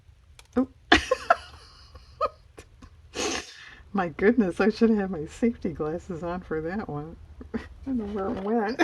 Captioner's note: laughs